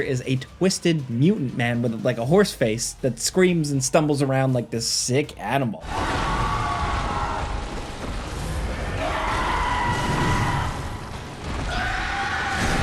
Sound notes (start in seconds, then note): 5.8 dramatic music; 6.5 screaming